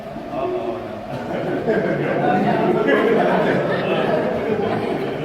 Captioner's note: crowd laughter